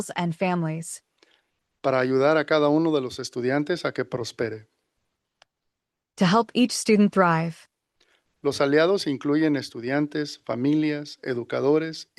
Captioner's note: non-english speech